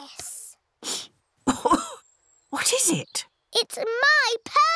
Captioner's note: sniffs and coughs